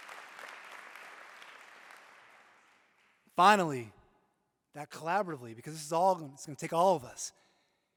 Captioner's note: applause